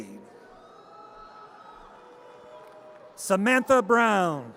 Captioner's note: audience cheers